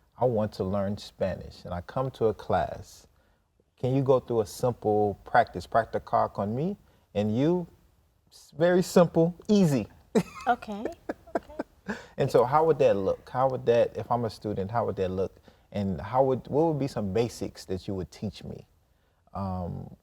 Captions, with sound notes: I want to learn Spanish. And I come to a class. Can you go through a simple practice, (in Spanish), on me and you, very simple, easy (laughs). - Okay. - And so how would that look? If I'm a student, how would that look? And what would be some basics that you would teach me